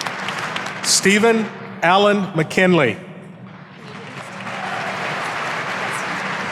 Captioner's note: audience applauding